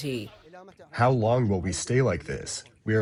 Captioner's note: through translator